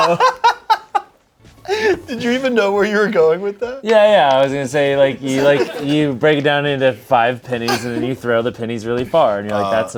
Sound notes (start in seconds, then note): 0.0 laughs